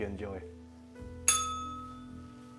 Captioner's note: bell rings